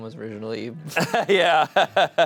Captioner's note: laughs